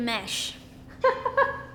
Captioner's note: interviewer laughs